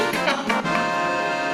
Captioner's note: laughs